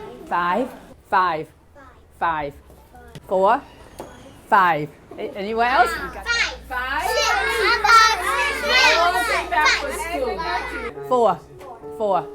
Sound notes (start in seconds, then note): 6.2 children yell ages